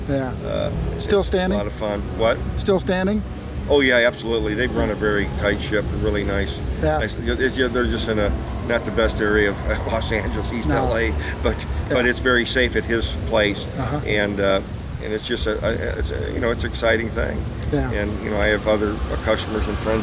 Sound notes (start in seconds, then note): 7.5 laughs